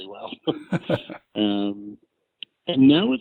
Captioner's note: laughs